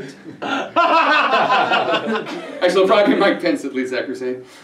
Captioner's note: laugthter